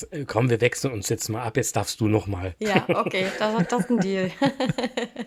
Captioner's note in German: gelächter